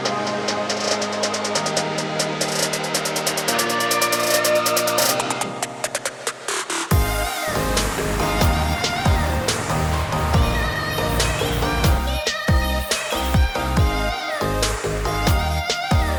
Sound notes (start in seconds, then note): 6.8 soft music; 7.1 plane whizzing; 12.1 soft music